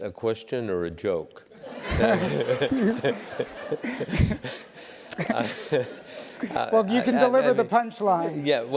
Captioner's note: laugh